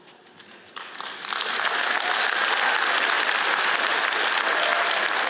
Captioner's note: audience applauds